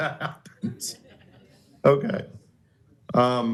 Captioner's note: laughter